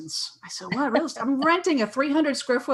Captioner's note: laughs